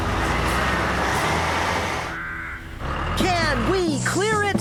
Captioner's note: engines Running